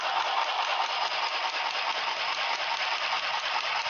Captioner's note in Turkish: Dikiş Makinası sesi